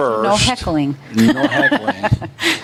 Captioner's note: chuckles